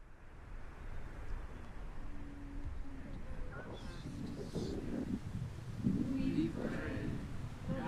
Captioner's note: chanting